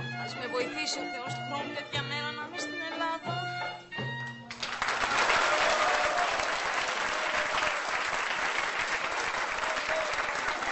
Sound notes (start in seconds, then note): 4.4 crowd applauds